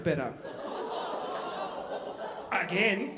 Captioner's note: audience groaning